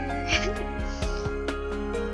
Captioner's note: awkward laugh